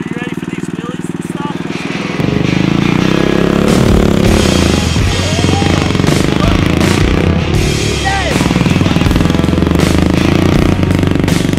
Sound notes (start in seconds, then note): 2.5 heavy music; 4.9 engine roars